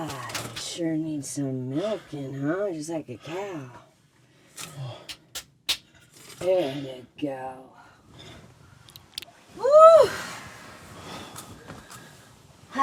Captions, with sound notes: Why, you sure need some milking, huh, just like a cow. (smacking face) There ya go. Woo!